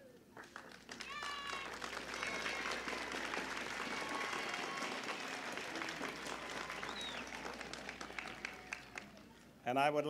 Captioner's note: applause and cheering